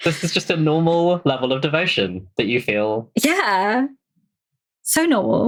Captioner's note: laughs